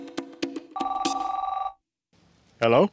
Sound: phone rings

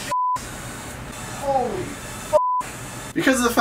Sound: beeps; beeps

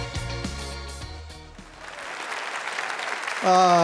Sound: applause

